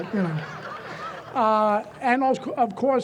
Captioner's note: audience chuckles